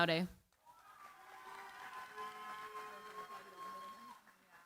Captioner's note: cheering, applause